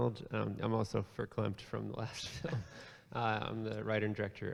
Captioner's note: laughs